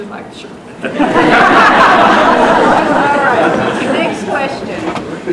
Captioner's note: laughter